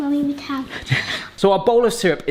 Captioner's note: laughing